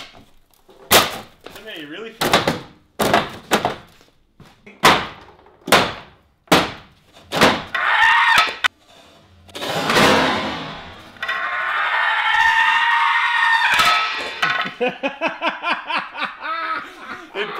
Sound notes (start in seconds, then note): 2.2 banging; 3.0 rattling; 6.4 bangs; 7.2 yelps; 14.4 laughs